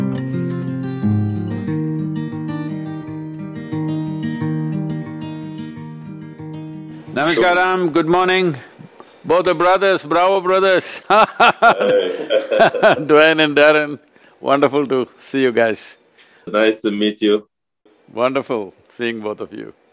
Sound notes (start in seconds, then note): 11.2 laughs